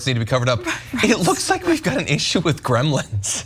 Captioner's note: laugh